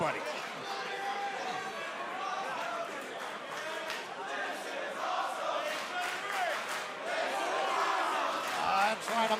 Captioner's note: crowd cheering